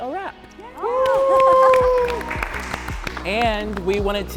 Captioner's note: all cheering and clapping